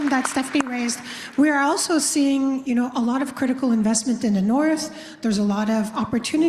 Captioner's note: applause